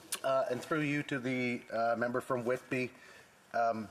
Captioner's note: speaking French